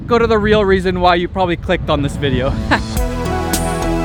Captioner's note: whimsical music; laughs